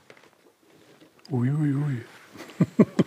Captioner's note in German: mit tiefer Stimme